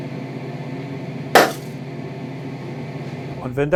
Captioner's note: leiser Knall